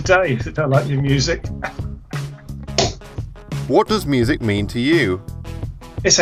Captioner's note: laughs